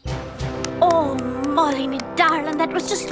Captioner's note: applauding